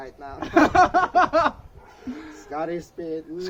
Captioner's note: chuckles